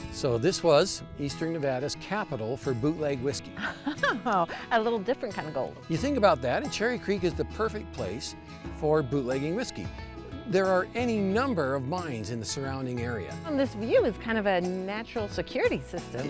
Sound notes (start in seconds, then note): 3.5 laughing